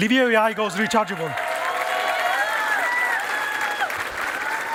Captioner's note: cheering and applause